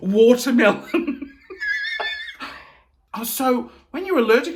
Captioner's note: chuckling